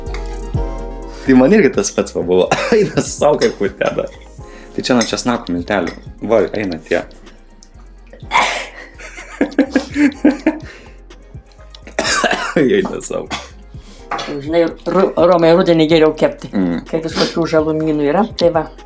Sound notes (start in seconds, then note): 8.3 sneezes in Lithuanian